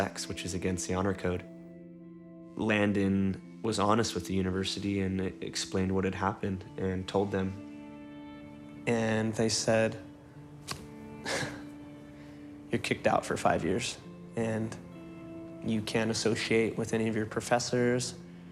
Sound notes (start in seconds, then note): 10.9 scoffs